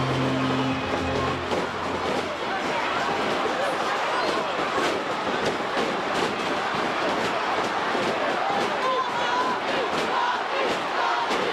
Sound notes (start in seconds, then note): 1.8 crowd chattering; 1.8 stage clattering